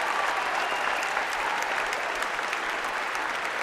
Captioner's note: applause